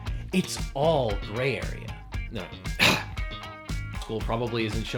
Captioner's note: coughs